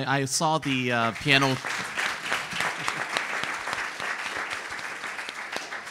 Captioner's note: audience applauds